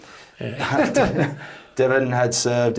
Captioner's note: both chuckles